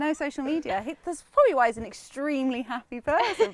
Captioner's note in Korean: 웃음